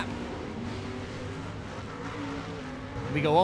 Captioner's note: truck engines revving